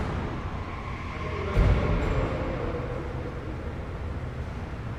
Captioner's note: distant tires screeching